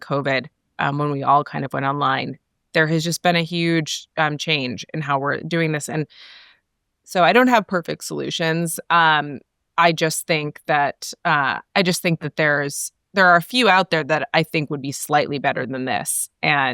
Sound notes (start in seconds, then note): none